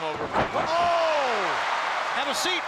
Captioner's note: crowd cheering